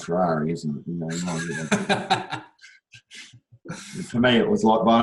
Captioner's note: laughs